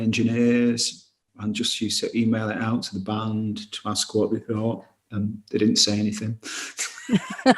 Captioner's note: laughs